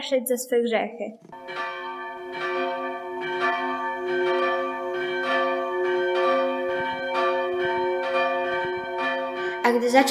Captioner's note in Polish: bicie kościelnych dzwonów